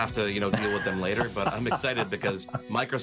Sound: laughs

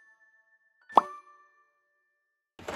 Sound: sound Effect: Pop

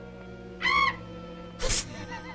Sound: screech; laughs

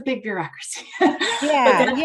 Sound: chuckles

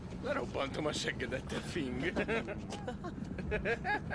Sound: laughter

